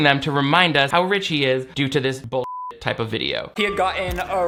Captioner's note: beep